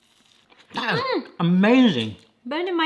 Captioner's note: friend moans